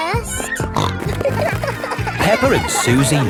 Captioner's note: snorting